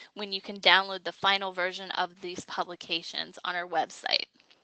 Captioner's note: none